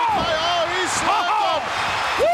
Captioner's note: commentators exclaim